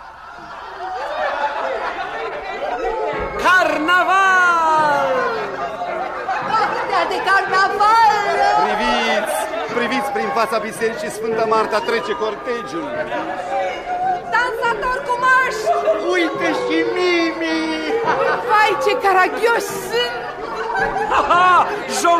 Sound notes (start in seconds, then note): 0.8 ovation